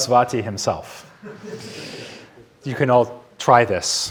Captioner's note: audience laughing